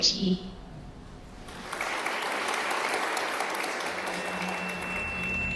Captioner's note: applause; drone-like music